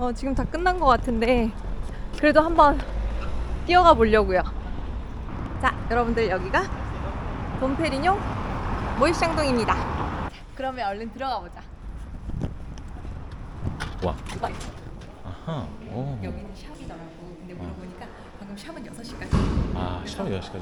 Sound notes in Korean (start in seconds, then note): 11.7 두근두근~